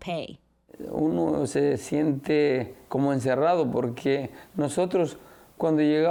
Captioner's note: speaking Spanish